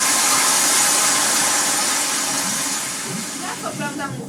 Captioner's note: water rushing